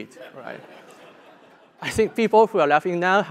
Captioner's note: laugh